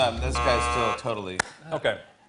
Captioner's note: none